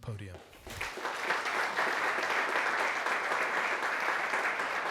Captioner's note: audience applauding